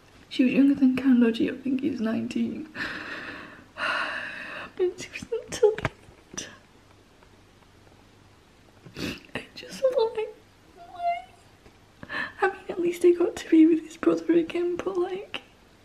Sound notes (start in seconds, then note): 10.8 crying; 14.8 sniff